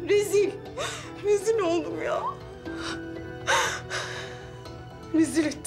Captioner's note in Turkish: Ağlıyor; Ağlıyor